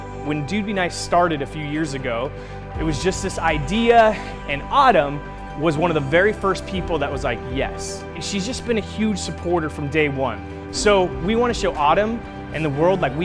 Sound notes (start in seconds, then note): none